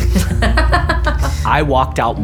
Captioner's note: laughing